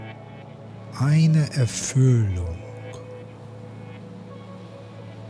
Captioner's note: german